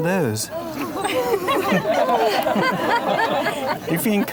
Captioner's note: crowd laughs